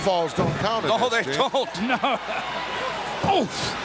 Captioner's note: laughs